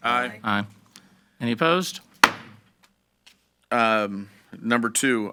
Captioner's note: gavel banging